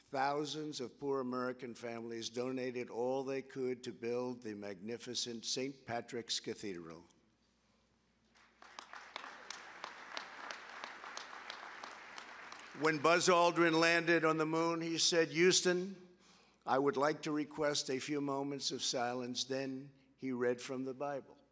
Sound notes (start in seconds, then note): 8.3 applause